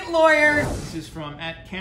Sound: air whooshing

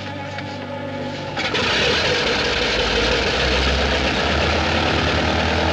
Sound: engine starts

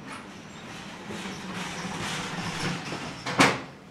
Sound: trolley wheels clank, door shuts

